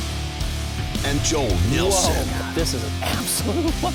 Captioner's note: voiceover